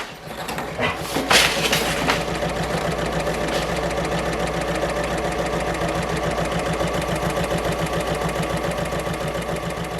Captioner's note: sewing Machine Sounds